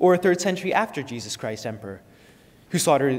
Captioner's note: none